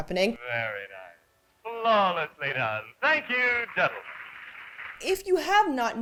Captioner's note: audience applause